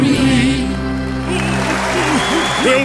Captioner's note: crowd cheering